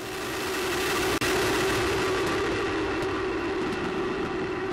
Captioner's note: rushing air screaming